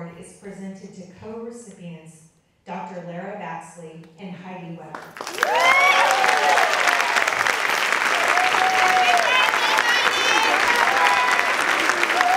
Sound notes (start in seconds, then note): 4.9 audience clapping and cheering